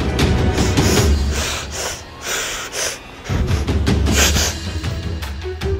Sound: soldier breaths heavily

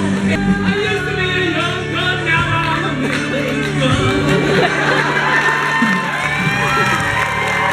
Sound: laughter and cheering

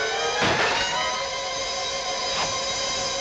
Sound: none

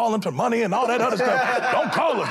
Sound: laughter

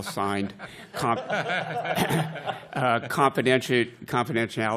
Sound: laughter

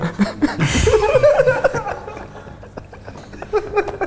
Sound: laughter

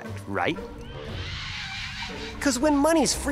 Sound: demons cackling

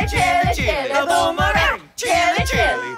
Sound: meowing

